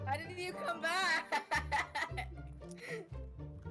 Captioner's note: laughing